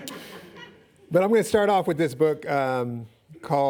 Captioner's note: laughing